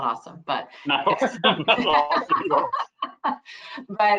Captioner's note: laughing; laughs